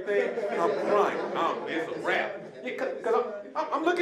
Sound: audience laughing

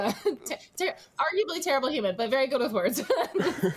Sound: chuckles

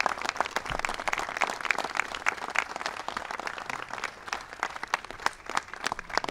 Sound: applause

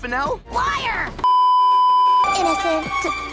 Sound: beeeeeep

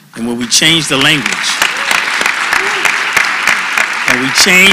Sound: applause

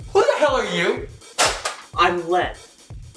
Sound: gun hitting ground

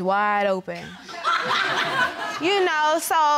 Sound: audience laughing

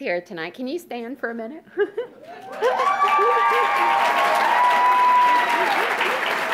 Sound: audience cheers

